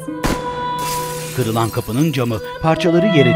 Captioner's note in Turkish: Kırılan cam sesleri